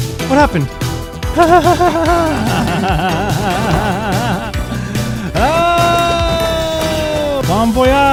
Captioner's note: crazed laughter